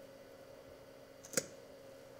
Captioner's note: quiet popping